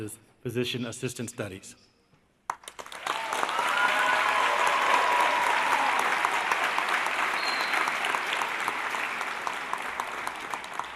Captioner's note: applause